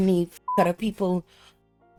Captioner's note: beep